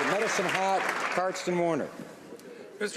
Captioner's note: applause